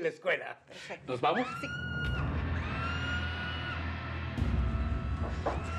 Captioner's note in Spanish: se oyen gritos